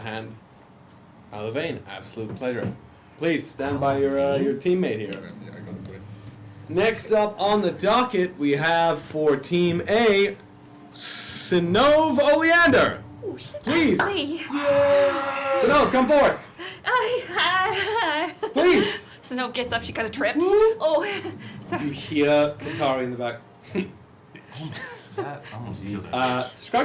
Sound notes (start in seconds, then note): 14.5 cheering